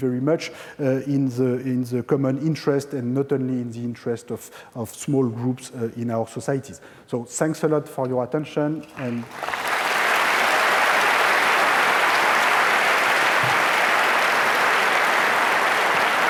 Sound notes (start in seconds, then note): 8.9 applause